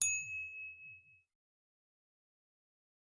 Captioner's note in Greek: καμπανάκι